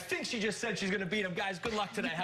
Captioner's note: another language